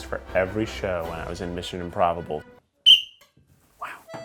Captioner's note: whistles